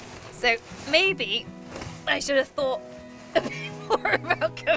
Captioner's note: laughing